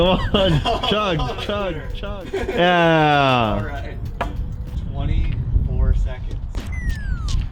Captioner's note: laughs